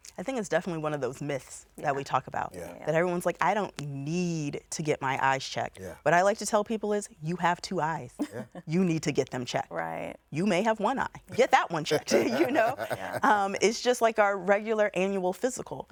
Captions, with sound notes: - I think it's definitely one of those myths that we talk about. - Yeah. - That everyone's like, I don't need to get my eyes checked. What I like to tell people is, you have two eyes. You need to get them checked. - Right. - You may have one eye, get that one checked, you know? [person laughing] It is just like our regular annual physical.